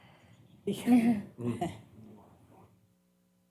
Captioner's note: laughter